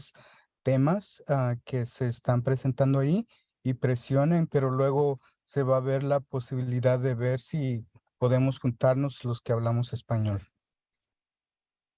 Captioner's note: speaking spanish